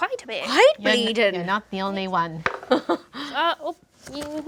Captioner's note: dice roll